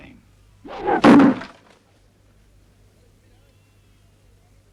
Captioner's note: knife thuds